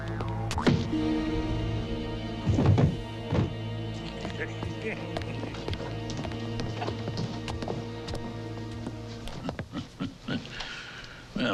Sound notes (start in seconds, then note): 0.4 blow thuds; 1.5 floor thumps; 9.2 Hezekiah chuckling